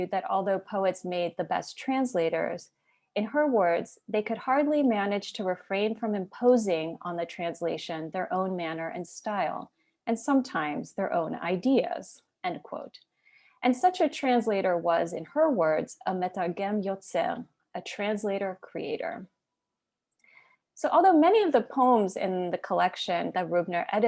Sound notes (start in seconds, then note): 16.6 Hebrew